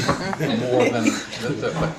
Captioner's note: laughing